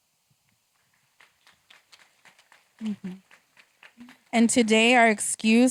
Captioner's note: applause